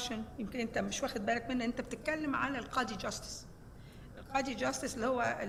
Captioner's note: speaking foreign language